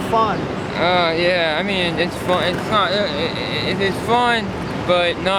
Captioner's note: stammers